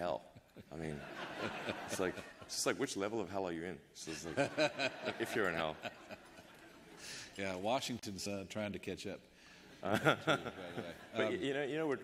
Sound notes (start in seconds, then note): 9.8 laughter